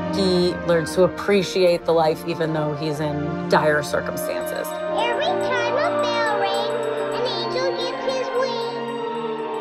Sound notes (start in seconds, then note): 3.7 bell rings